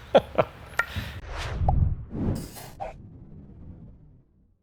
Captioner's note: laughs; air whooshing